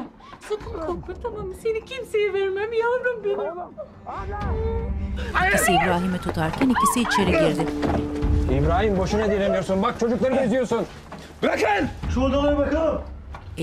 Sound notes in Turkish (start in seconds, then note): 5.3 Bağırma sesi